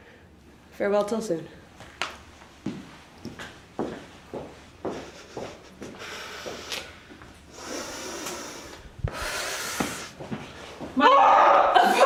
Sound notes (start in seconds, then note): 4.9 heavy breathing; 11.0 muffled scream